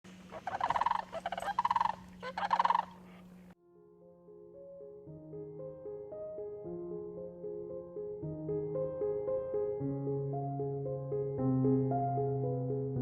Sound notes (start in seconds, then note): 0.1 birds chirping; 7.7 piano plays softly